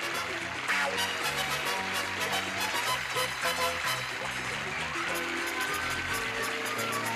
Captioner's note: clapping